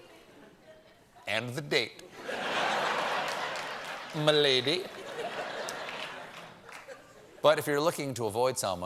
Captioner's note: laughter